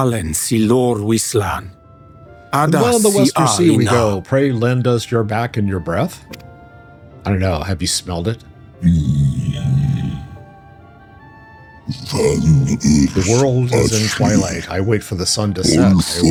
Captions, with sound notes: [speaking in foreign language] While the Wester Sea we go, pray, Len, does your back and your breath. I don't know. Have you smelled it? [growling] The world is in twilight. I wait for the sun to set.